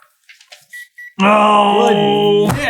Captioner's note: gentle beeping